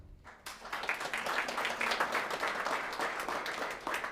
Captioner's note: applauding